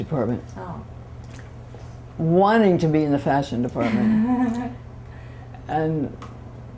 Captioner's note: laughter